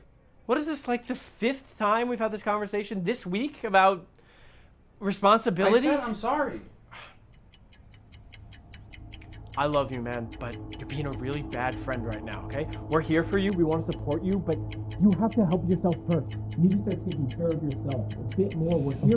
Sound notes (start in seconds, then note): 8.2 clock ticking; 16.2 voice muffled